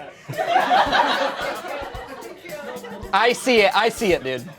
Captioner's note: laughter